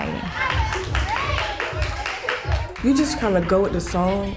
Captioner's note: clapping